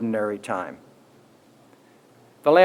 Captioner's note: pause